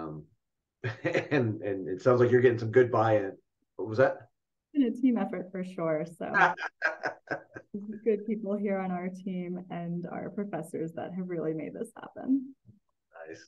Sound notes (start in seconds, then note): 6.3 laughing